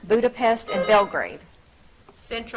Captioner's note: buzzer trills